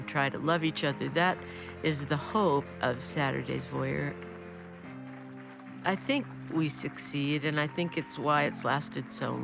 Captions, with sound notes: That is the hope of "Saturday's Voyeur." I think we succeed and I think it's why it's lasted so long. (applause)